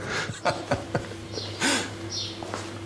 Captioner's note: he laughs